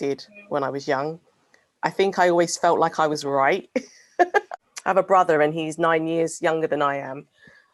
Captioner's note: laughs